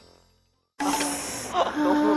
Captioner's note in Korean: 스읍